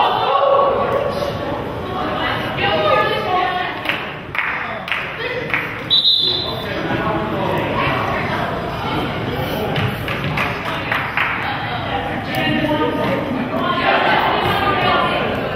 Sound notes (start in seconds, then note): 5.8 whistle blows; 9.9 crowd claps